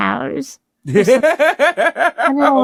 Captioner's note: Ron laughing